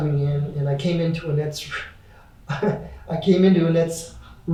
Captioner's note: laughs lightly